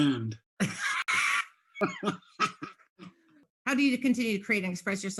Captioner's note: laughing